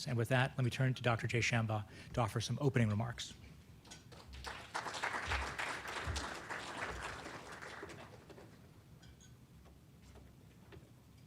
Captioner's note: applause